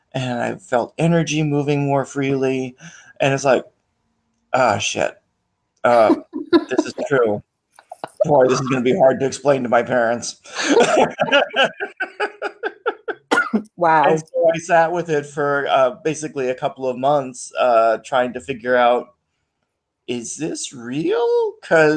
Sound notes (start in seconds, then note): 7.9 laughs